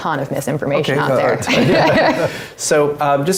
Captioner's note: laugh